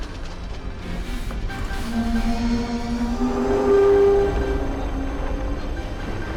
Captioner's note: brakes Grinding